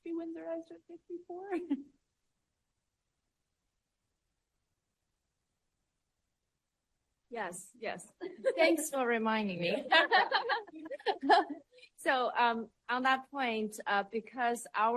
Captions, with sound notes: REASON IT NEEDS TO BE WINDSORRIZED AT 64. >> YES, YES. THANKS FOR REMINDING ME. [LAUGHTER] >> SO ON THAT POINT, BECAUSE OUR